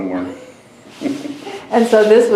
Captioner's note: laughs